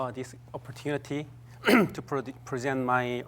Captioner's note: clears throat